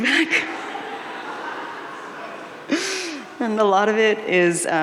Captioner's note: audience laughing